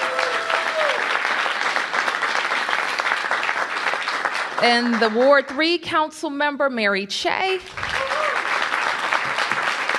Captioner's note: applause